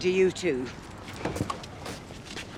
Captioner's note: opens car door